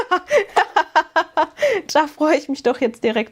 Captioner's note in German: gelächter